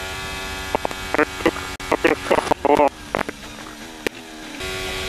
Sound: feedback

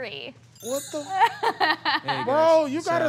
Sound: laughing

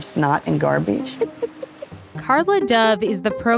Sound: laughing

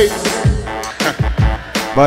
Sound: chuckles

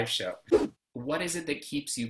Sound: whoosh

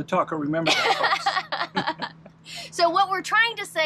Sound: laughing

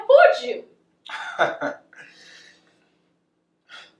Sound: Taz laughing

